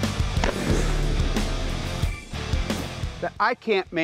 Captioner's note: gunshot